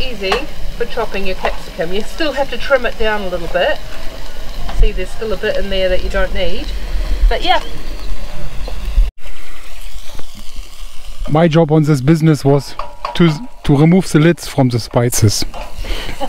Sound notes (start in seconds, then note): 8.1 birds chirp and pan sizzles